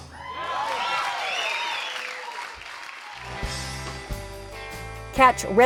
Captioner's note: cheers and applause